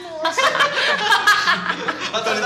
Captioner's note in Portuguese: risada